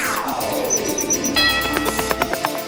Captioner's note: common Kingfisher calls